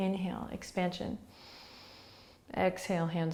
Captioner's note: inhaling